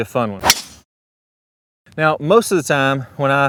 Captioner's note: golf club strikes